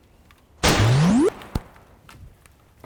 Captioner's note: gunshot